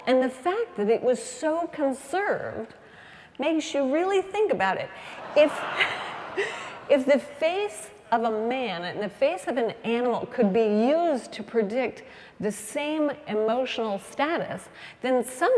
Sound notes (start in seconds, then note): 4.9 laugh